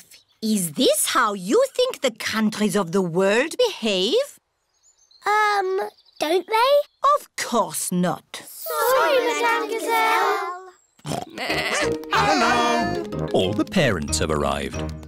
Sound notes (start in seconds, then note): 11.0 oinks; 11.2 bleats; 11.9 barks